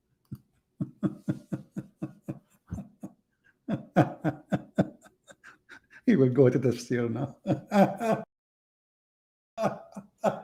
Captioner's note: Ketawa